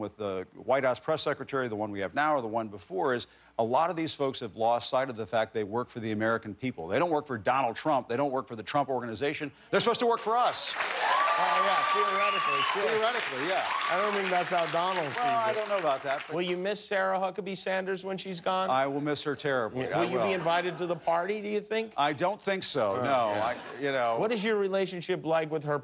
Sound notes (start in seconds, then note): 14.7 cheers and applause